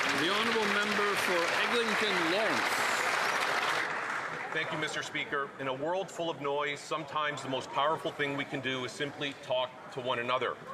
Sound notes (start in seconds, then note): 2.0 some Applause